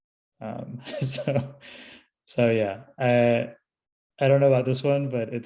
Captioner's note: laughs